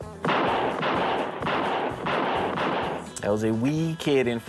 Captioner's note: gun shooting